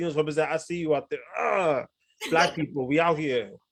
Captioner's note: groans